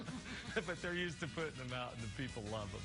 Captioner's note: laughing; laughing